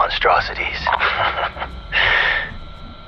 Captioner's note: laughs